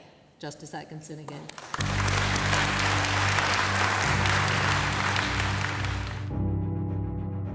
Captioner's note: applause